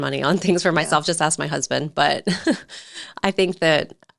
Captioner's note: chuckles